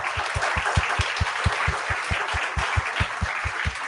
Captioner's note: applause